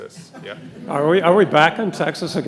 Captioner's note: audience laughing